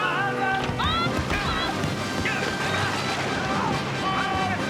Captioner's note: Jonah yelling